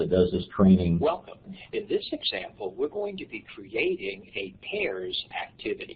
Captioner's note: voice from training video